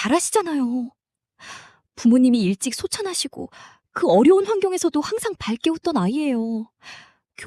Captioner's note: sigh